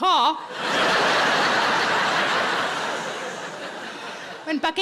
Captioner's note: audience laughing